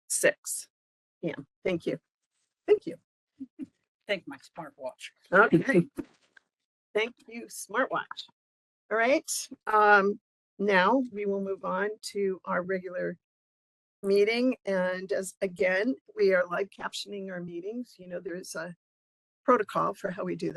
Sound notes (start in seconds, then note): 2.9 laugh; 4.9 laughing